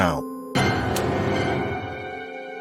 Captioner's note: heavy strike